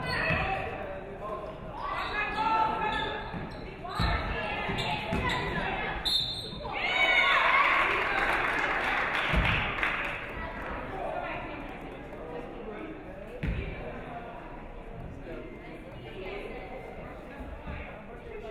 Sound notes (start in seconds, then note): 6.0 referee whistles; 6.8 audience cheering; 7.4 audience clapping